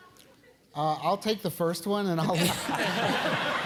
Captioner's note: laugh